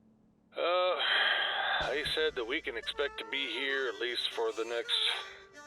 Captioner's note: sighs